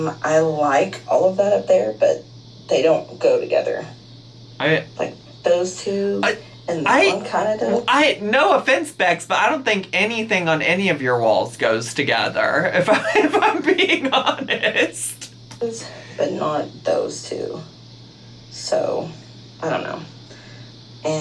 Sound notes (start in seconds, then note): 12.8 laughs